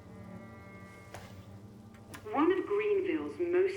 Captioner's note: button clicks